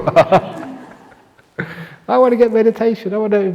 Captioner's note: laughs